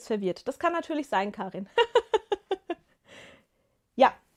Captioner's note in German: gelächter